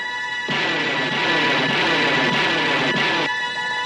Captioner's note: zooming